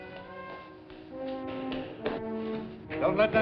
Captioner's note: hurried footsteps